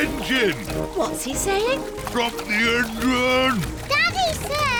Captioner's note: splutters